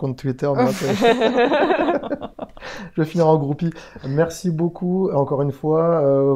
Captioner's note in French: rire